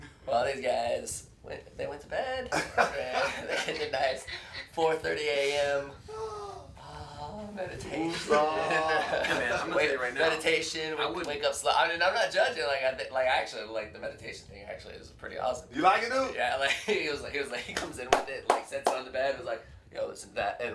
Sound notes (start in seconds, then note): 2.5 laughter; 6.0 sighs; 17.2 chuckles; 18.1 clapping